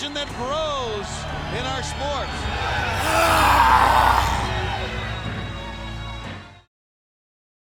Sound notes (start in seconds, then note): 2.6 Goldberg grunting; 4.8 audience cheering